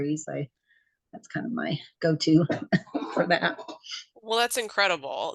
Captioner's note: laughs